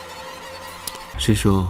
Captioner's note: the footsteps arrived